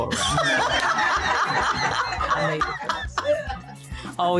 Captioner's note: laughter